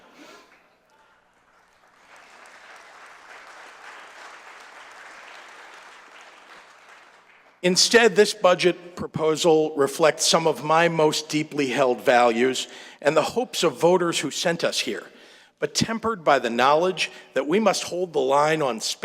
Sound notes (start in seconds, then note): 7.3 applause